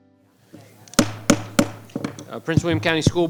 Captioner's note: gavel thudding